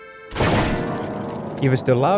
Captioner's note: loud crash